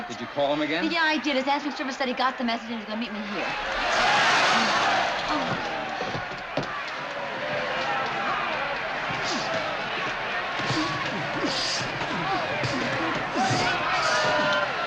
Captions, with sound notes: - Did you call him again? - Yeah, I did. His answering service said he got the message, and he's going to meet me here. [CROWD SHOUTING] Oh. [GRUNTING]